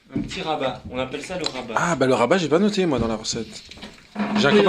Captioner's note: surprised